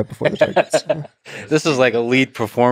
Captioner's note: Lex laughing